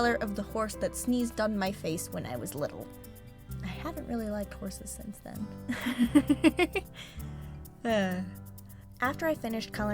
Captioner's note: laughs then sighs